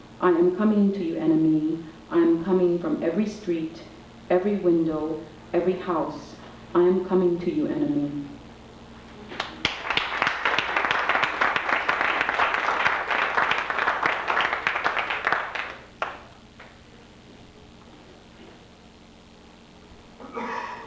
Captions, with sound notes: I am coming to you, enemy, I'm coming from every street, every window, every house. I am coming to you, enemy. [applause]